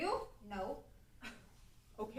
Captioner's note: scoff